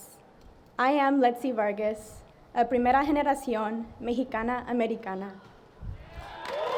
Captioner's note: speaks in Spanish; audience applauding